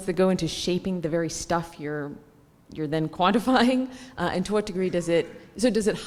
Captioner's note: laugh